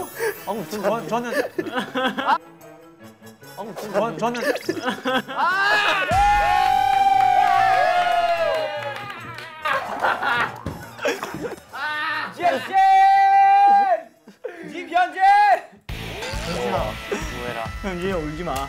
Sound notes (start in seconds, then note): 9.0 hehehe happy